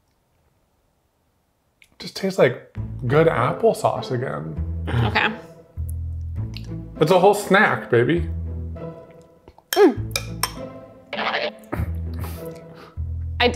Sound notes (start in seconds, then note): 9.6 fork clinking; 11.6 chuckling